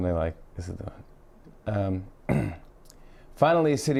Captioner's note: clears throat